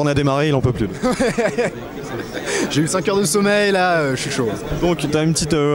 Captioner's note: laughs